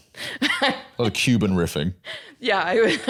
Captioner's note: laughs